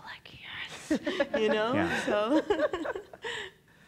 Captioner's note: laughs